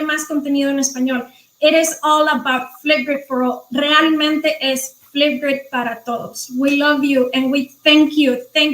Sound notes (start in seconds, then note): 3.8 speaking foreign language